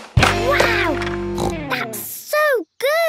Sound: snorts

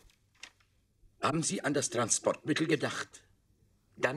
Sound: in German

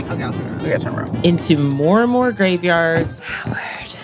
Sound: sighs

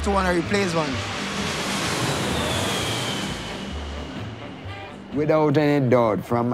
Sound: airplane flying

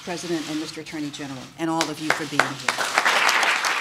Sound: applause

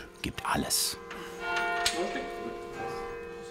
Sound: bells ringing

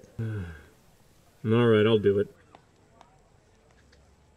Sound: sigh

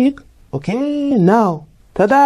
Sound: Marcel's voice is heard

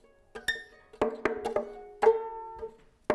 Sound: knocking sound

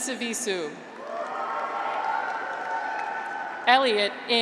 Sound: graduates cheer

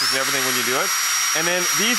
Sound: drill whirs

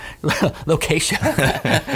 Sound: laughing

